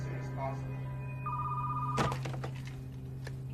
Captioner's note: phone ringing